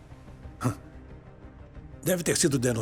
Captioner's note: scoffs